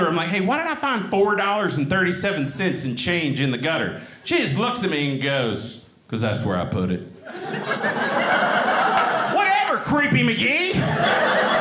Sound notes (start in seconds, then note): 7.2 audience laughing